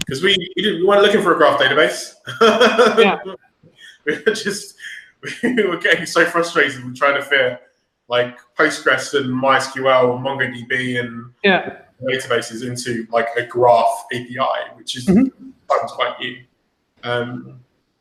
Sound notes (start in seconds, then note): 2.4 laughing